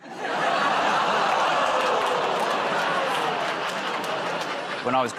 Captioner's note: laughter, groaning